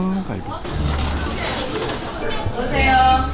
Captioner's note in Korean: 문 여는 소리